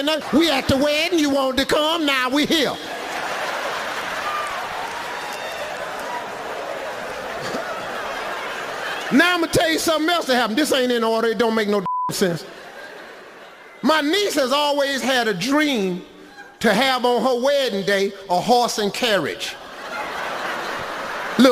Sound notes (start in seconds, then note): 2.7 audience laughs; 11.8 beeping; 12.2 audience laughs; 19.5 audience laughs